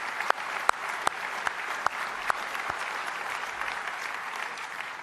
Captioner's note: applause